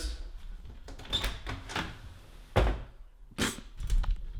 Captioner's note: door opens